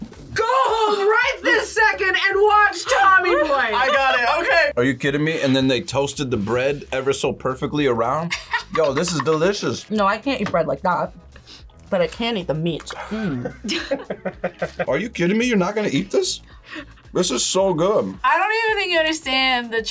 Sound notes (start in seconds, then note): 8.3 laughs; 13.0 laughs